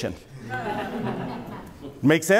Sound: audience laughs

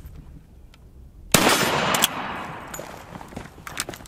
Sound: gun shot

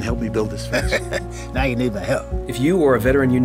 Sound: chuckles

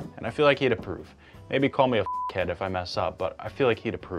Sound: beeps

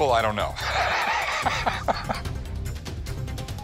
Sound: chuckling

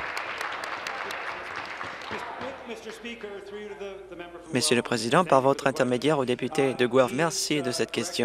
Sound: applause

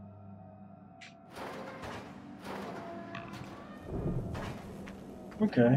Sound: creak of door opening

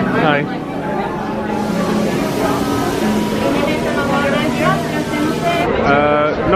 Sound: food sizzling

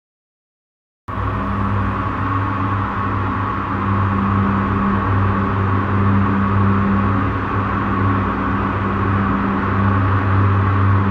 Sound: sound of space hangar

